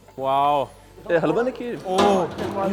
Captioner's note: man speaks foreign language